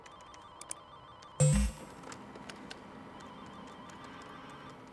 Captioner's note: phone ringing